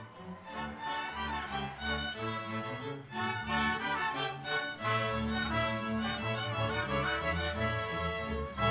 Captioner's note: applause